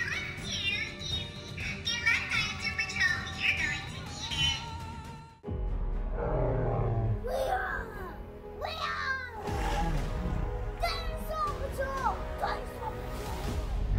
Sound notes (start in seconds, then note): 6.1 dinosaur roars; 7.7 Chase roars